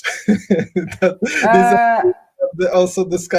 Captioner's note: laughing